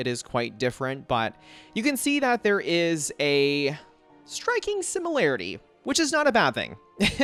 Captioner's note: chuckles